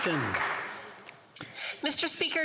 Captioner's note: applause